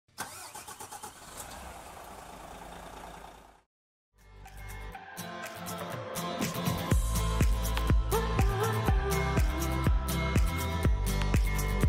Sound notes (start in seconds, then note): 0.1 car engine starts; 4.2 upbeat music